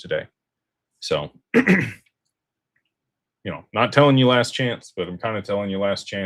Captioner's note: clears throat